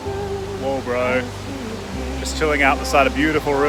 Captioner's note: river roaring